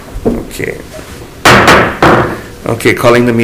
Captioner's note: gavel bangs